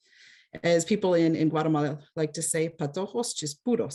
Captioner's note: speaks foreign